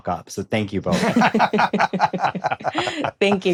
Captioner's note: laughter